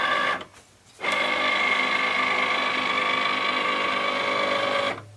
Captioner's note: machine whirring